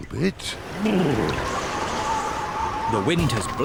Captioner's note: wind howls